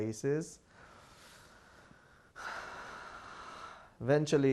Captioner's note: sighing